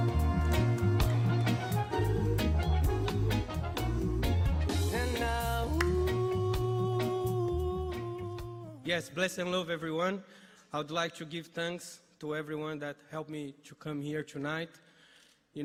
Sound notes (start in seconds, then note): 5.7 applause